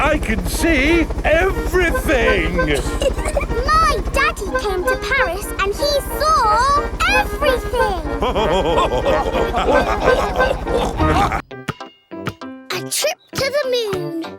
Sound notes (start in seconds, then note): 3.2 chuckles; 7.4 all laughing